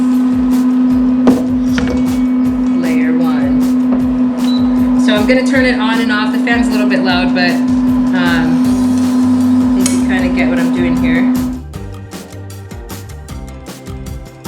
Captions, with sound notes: Layer one, so I'm gonna turn it on and off. (fan blowing) The fan's a little bit loud but you kind of get what I'm doing here. (happy music)